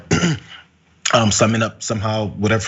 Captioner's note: cough